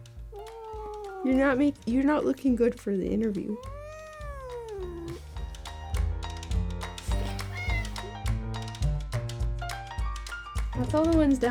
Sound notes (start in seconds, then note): 4.4 Lui whining; 7.5 playful upbeat music continues